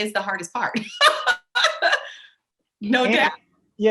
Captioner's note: laughs